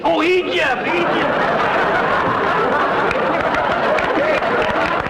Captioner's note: audience laughter; applause